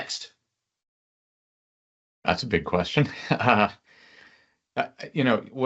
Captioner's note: laughs